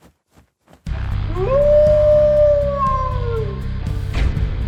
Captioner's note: howling; crash